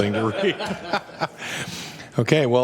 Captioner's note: laughter